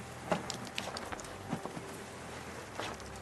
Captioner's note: water drops